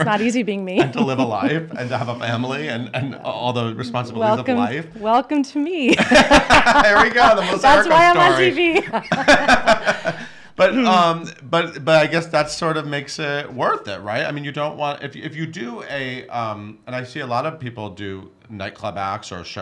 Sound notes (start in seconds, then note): 5.9 laughs